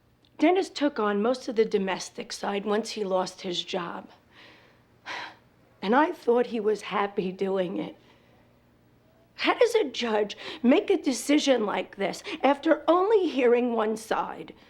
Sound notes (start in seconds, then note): 4.7 sighs